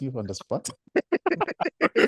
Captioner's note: laugh